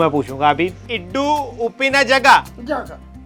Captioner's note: local lanuage